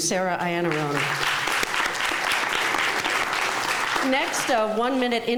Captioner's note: clapping